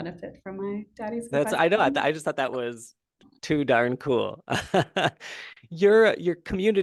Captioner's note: laughing